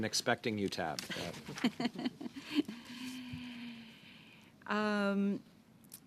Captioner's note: laughter